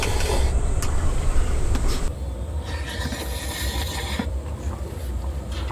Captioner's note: dogs